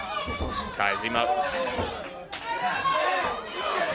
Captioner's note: crowd chatter